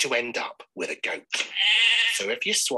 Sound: goat bleats

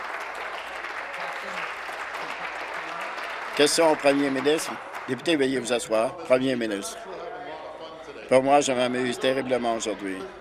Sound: applause

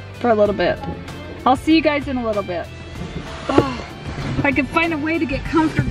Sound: gasps

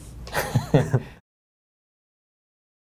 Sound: laughs

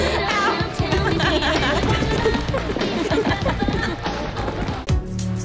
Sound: both laughing

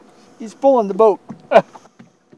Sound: laughter

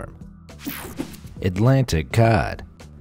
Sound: electricity buzzing

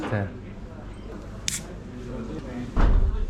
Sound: sound of opening a lid

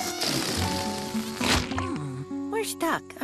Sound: squeak and flitter of air escaping

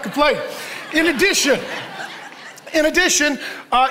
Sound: congregation laughs

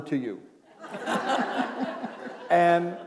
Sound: laughter

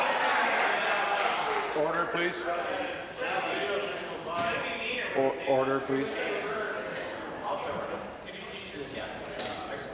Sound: applause

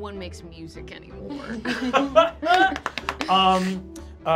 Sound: group laughs

